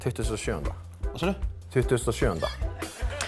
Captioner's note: in Icelandic